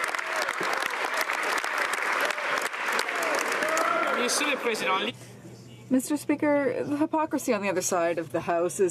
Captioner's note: some Applause